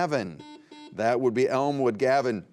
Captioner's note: buzzer beeps